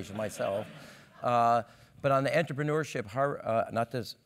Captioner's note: laugh